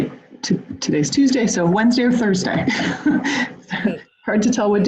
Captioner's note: laughs